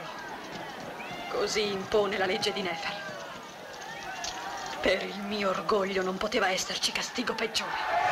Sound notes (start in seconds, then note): 4.7 yelling